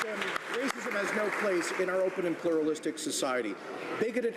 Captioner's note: some Applause